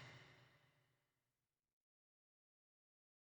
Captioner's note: silence